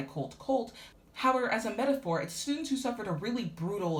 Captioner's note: speaking faintly